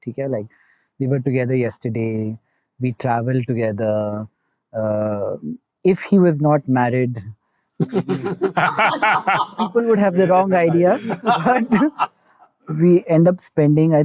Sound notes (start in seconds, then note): 7.8 coy laughter